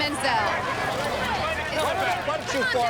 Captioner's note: clamoring